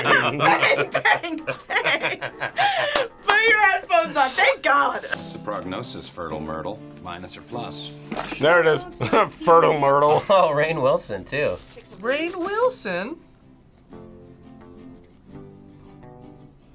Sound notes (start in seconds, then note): 2.6 laughs; 8.9 laughs